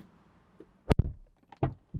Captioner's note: door Thud